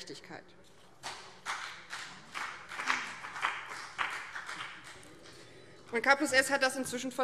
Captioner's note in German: Beifall BÜNDNIS 90/DIE GRÜNEN